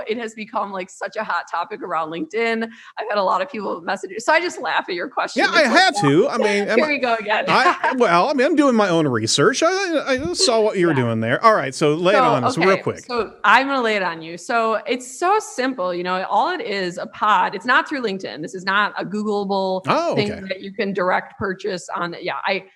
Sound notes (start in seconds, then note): 7.6 laughs